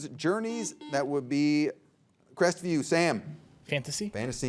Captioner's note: buzzer beeps